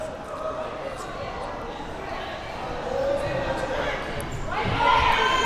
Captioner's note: spectators chattering